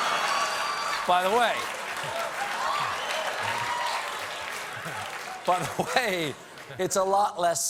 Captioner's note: applause